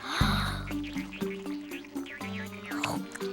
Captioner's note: inhales deeply; chomping